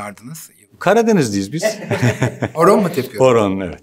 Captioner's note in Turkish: Gülüyor